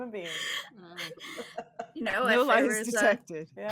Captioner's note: all laughing